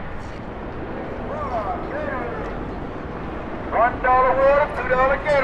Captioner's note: helicopter whirs